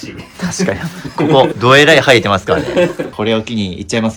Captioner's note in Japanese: 笑い